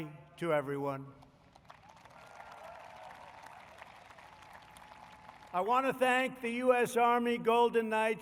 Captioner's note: applause